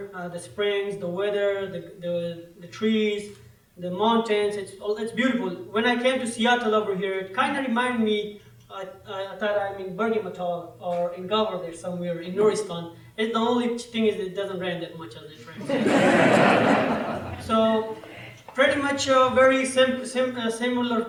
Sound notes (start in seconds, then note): 15.6 laughter